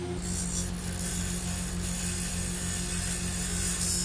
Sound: grinding tiny screws short sound

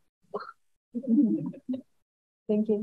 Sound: audience chuckling

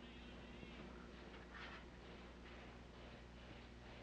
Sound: loud marching

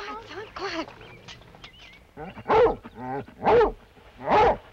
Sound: barking

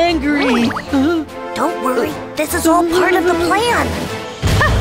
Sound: whispers; Queen laughs menacingly

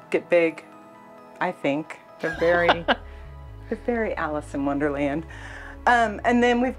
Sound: laughs

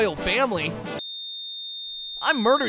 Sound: flatline

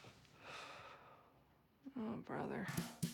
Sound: sighs

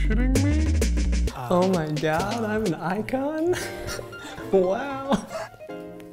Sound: laughs

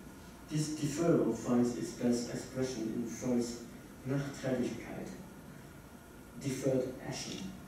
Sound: german

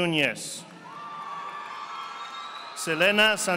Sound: audience applauding

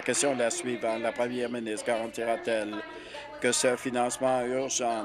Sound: applause

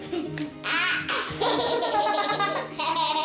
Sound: laughing

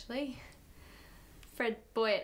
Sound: breathes in

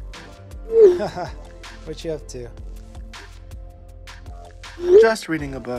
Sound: laughs

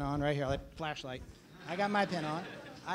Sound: laughter

